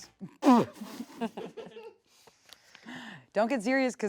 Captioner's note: everyone laughs